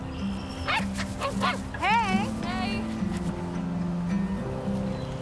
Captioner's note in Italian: Cane che abbaia; Cinguettio di uccelli